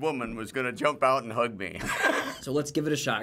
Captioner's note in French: gloussement